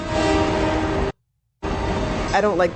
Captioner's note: silence